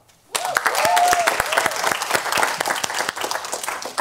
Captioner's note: applause